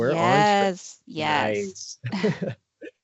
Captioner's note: brief laughter